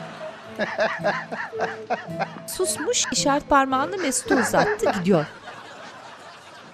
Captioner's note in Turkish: Gülme sesi